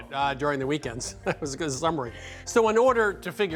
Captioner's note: chuckling